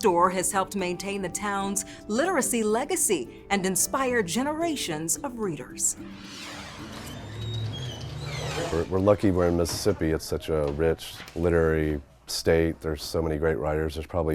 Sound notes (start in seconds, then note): 5.9 air whooshes